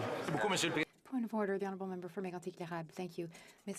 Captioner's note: speaking French